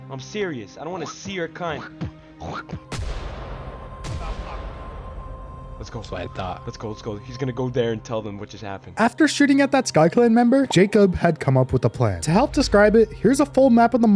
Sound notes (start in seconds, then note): 1.7 immitates spitting noises; 2.9 gunshot